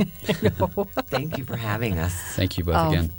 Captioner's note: laughter